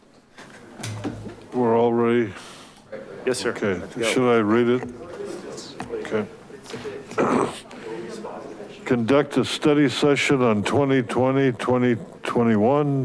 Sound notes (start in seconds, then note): 7.0 clears throat